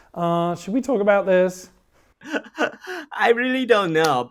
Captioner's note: laughing